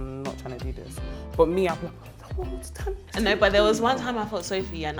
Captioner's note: whimpering